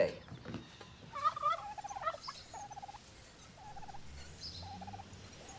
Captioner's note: turkey gobbling